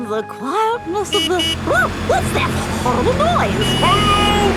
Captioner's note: honking